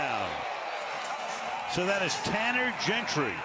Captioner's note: cheers